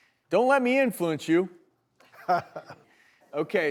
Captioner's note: laughing